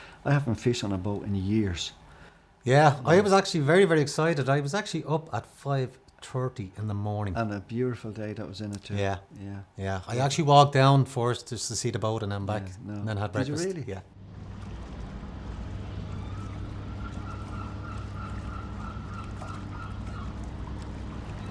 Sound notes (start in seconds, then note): 16.0 seagulls squawking